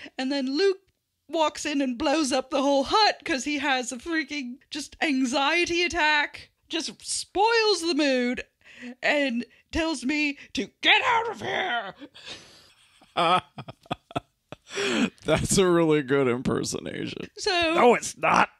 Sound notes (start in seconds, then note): 13.0 laughs